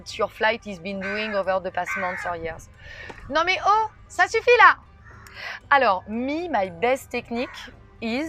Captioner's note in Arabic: بالفرنسية